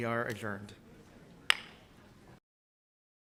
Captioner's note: gavel bangs